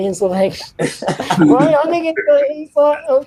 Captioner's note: laughs